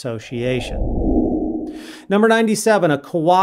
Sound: frame whooshing

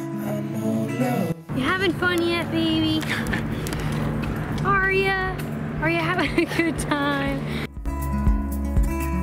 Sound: laughs

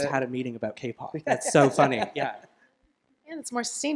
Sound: laughter

